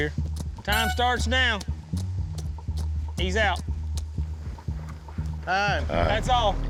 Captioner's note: horn blows